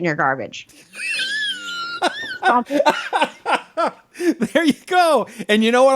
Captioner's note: laughing